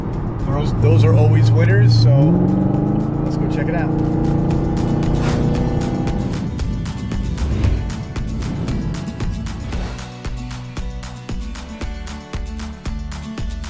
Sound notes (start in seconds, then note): 4.3 engine revving; 6.6 upbeat country music